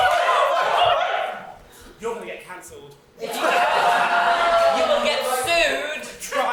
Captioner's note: audience egg them on, someone shouts "kiss!"; audience: oooooh!